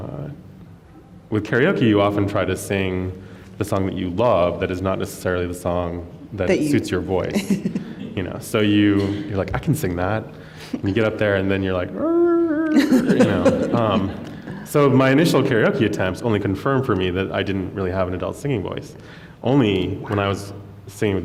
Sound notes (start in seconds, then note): 11.8 funny sounds; 12.7 laughter